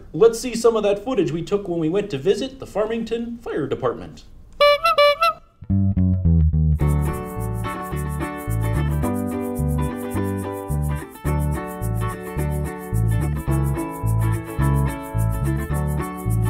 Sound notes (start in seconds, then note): 4.6 horn honking; 5.7 cheerful music